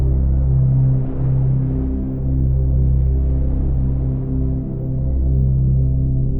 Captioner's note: gentle calm music continues; waves rustling